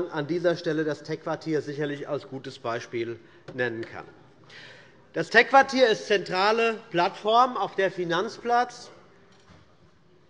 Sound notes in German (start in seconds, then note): none